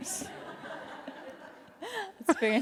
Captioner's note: laughing